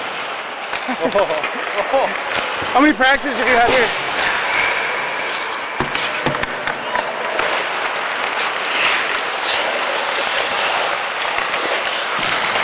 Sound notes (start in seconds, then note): 0.8 Caufield laughs